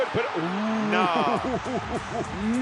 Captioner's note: laugh